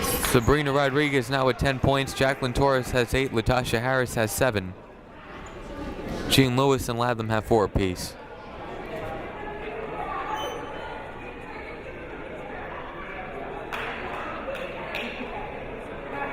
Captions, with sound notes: Sabrina Rodriguez now with 10 points, Jaclyn Torres has eight, Latasha Harris has seven. Jean-Lewis and Latham have four apiece. (crowd murmuring)